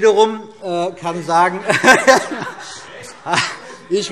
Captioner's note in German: Heiterkeit